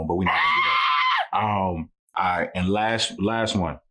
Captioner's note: screaming